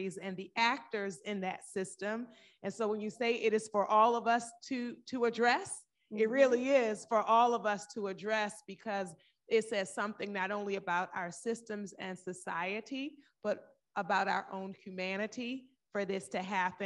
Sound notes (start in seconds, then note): none